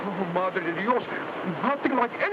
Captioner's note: speaks in foreign language